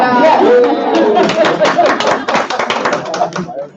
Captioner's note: applauding